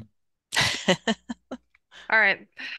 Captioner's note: laughs